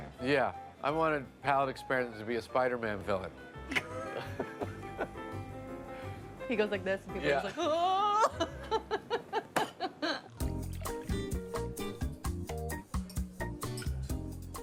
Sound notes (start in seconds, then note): 3.7 both laugh; 10.1 slow mood music